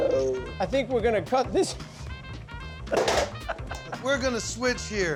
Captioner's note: laughs